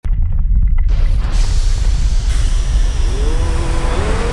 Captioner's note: electric sparks crackle as the title appears; eerie, painful vocal music